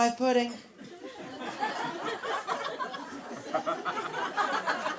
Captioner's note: laughter